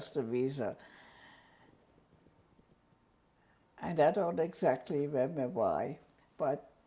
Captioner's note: pauses for 3 seconds